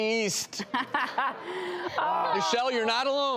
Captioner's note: group laughs